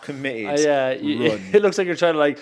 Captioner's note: chuckles